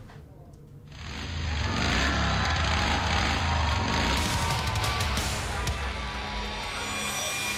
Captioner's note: engine revving